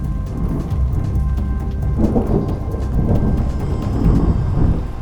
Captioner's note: thunder rumbling